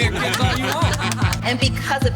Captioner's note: all laughing